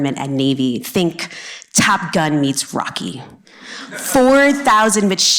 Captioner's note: laughter